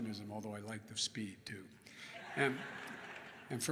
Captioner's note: laughter